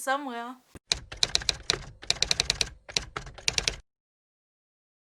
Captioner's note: typewriters Typing